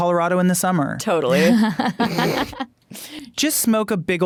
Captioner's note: laughing